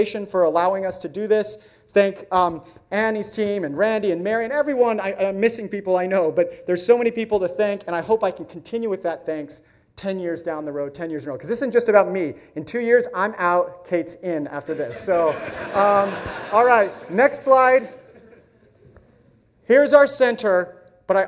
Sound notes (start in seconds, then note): 14.6 audience laughs